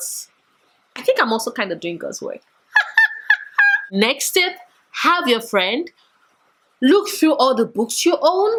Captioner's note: laughing